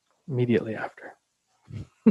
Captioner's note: laughing